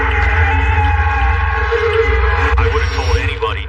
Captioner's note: siren wailing